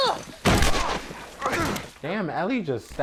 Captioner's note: gun firing